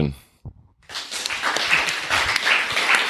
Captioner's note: crowd applauding